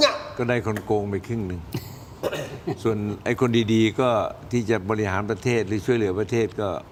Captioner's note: clears throat